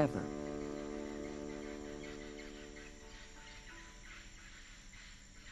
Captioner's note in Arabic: زقزقة الطيور والصراصير